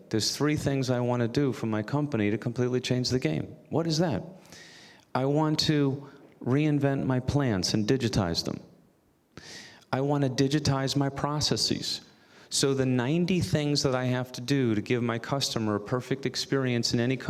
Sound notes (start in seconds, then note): none